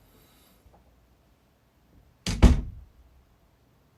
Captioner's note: dOOR kA-bOOm